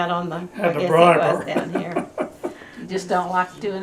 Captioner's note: laughs